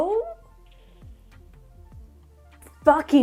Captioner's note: long pause